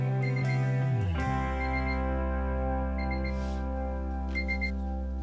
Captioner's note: medical equipment beeps